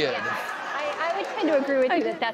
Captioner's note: crowd laughs